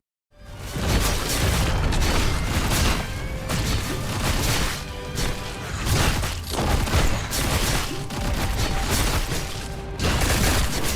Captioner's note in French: bruits de combat répétitifs